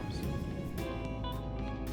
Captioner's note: soft music; whooshing